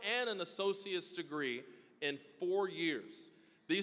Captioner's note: none